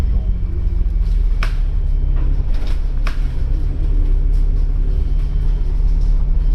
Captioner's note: city traffic hum and the soft chatter of people below